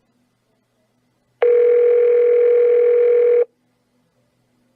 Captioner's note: phone rings